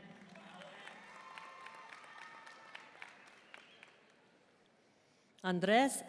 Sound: audience cheering and applauding

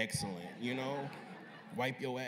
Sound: laughter

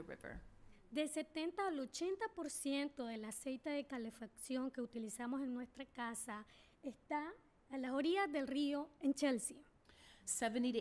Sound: speaking spanish

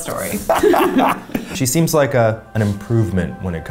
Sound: laughing

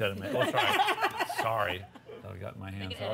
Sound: laughter

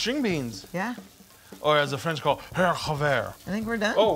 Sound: speaks foreign language

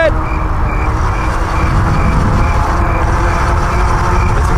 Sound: crickets chirping

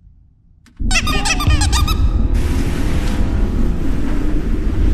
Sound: clown squeaking

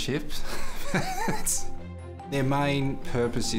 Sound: laughing

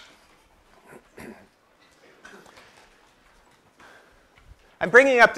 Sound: cough

